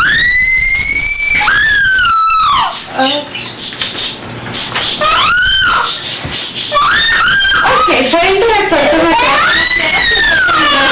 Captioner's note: child screaming